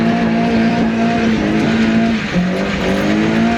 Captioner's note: engine revving